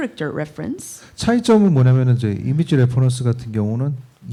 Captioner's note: speaking korean